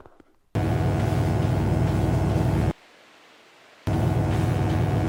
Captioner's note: electric buzzing